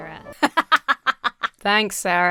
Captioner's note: Emma laughs